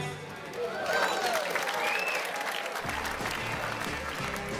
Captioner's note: crowd applauding